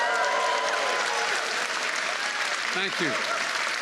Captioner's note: applause